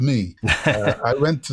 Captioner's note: laughter